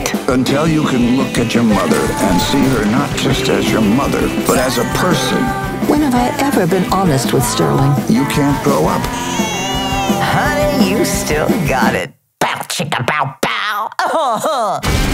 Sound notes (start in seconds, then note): 5.3 belches; 8.7 crying